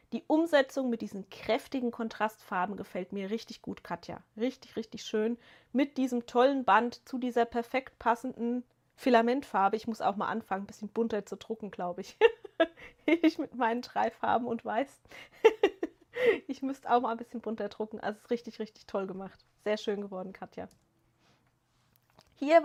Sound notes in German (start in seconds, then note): 12.1 gelächter